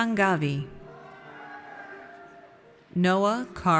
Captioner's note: audience cheers